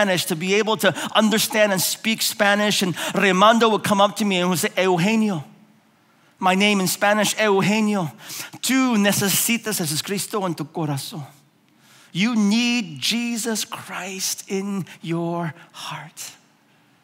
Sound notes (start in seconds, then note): 4.9 speaking in foreign language